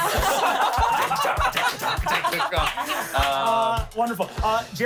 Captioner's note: everyone laughs